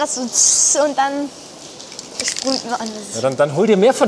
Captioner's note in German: Imitiert Zischen der Dose